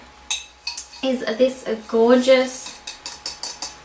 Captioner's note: taps bowl